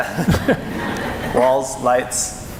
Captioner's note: laughing